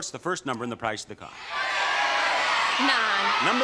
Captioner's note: audience shouting